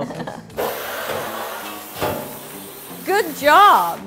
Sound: water spraying

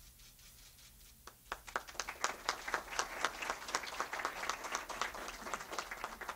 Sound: clapping

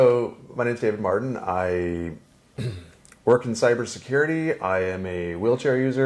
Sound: clears throat

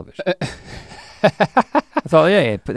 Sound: chuckles

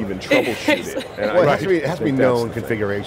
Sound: laughs

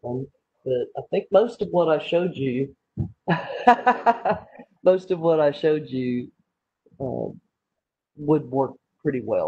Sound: speaker laughs

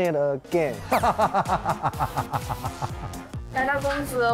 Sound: hahahahahahaha

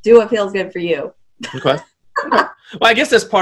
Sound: laughs

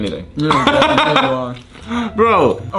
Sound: laughs

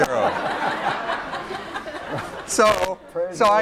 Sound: laughter

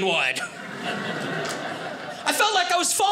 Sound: audience laughing

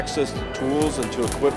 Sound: sparking sound

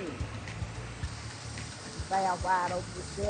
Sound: air hissing

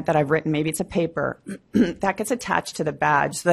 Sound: clears throat

